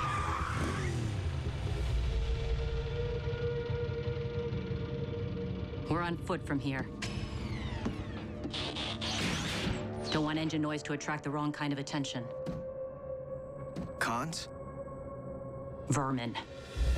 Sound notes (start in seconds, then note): 0.0 tires screec; 6.8 engine shuts off